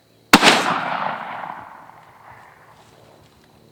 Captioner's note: gun shot